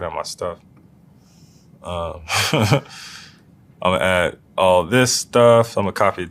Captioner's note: laugh